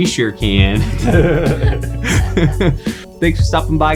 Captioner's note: all laughing